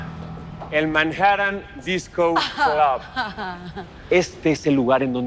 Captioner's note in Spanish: Risas